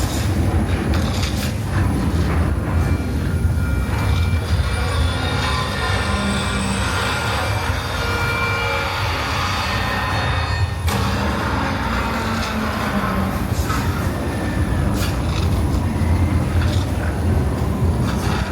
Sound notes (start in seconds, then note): 3.4 alarm blaring; 3.9 train screeching